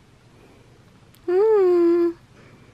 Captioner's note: soft coo